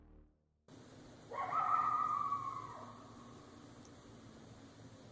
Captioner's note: animal bellowing